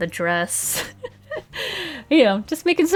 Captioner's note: laughs